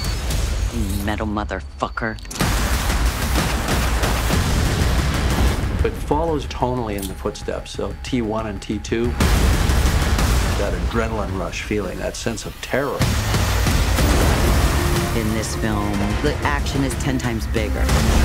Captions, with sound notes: You metal motherfucker. (Gunfire) (Explosion) It follows tonally in the footsteps of T1 and T2. (Explosion) That adrenaline rush feeling, that sense of terror. In this film, the action is ten times bigger.